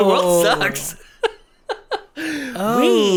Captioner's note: laughs